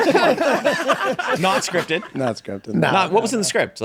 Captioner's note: group laughing